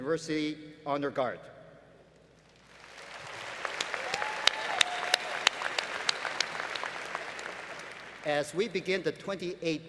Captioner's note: applause